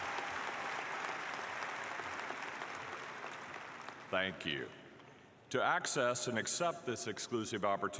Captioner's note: applause